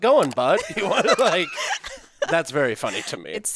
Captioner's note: all laughing